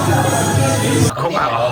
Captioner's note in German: gelächter